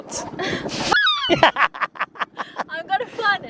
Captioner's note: bird squawking; laughing